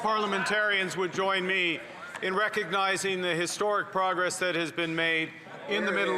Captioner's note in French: voix de l'interprète